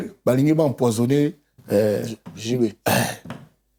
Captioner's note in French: raclement de gorge